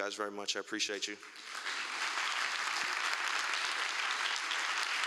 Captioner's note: applause